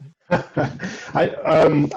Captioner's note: laughs